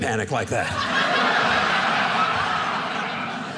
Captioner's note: audience laughing